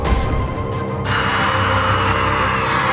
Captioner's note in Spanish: chicas gritan